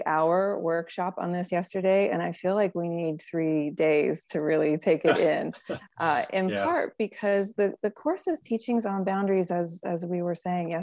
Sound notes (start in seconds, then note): 3.8 laughing